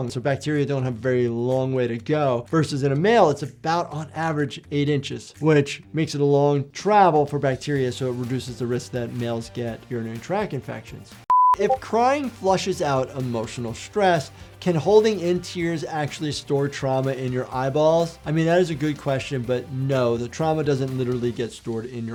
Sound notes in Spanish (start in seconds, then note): 11.3 pitido de pantalla